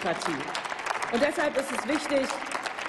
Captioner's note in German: Applaus